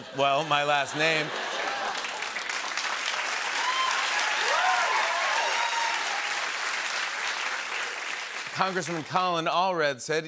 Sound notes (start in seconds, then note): 0.0 laughter; 3.2 cheers and applause